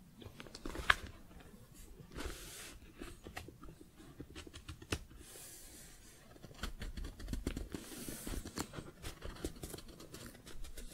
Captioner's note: book shuffling, page turning